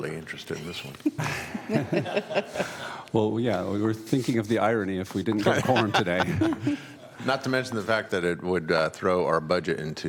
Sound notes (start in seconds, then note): 5.4 laughter